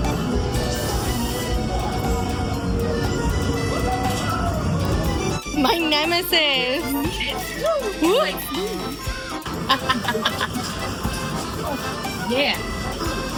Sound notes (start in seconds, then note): 0.0 hoots; 12.3 laughs